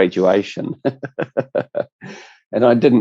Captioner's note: laughs